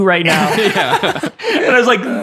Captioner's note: laughing